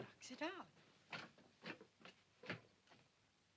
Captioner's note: thumping down stairs